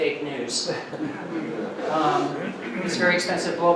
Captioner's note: audience laughing